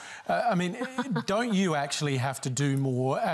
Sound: laughs

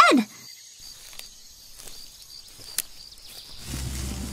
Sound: footsteps on jungle floor

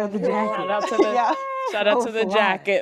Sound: cheering

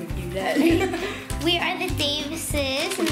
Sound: laughing

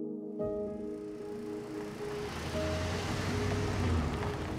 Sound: truck engine

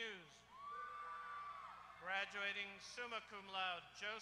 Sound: applause

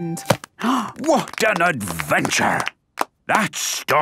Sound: applause

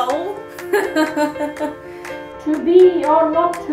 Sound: laughing

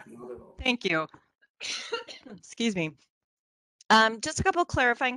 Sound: coughs

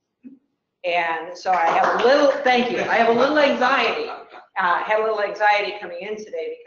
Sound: applause - laugh

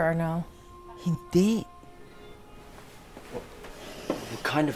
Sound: Criselda speaks Tagalog

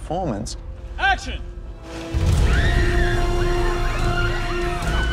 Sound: shrieking

